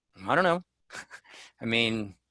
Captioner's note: giggles